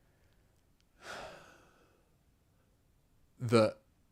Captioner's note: sighs